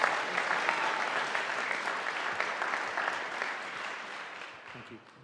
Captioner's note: audience applauding